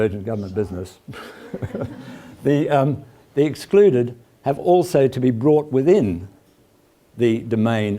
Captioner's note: laugh